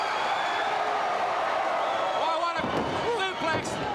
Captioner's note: crowd cheering